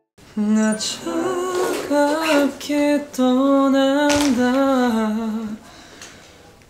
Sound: humming

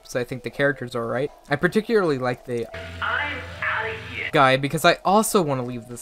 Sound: audio Tape: "I'm outta here!"

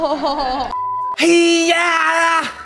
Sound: laughs; beeps

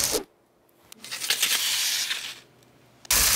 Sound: pan sliding; steak sizzling

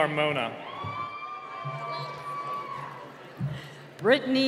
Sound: cheering

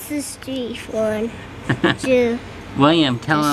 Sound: chuckles

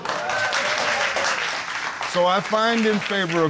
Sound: audience cheers

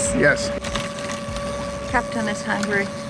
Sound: fishing rod reeling

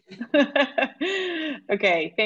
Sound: laughs

